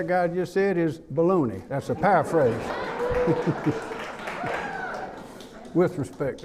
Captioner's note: laughing